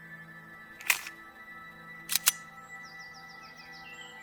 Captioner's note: pistol cocking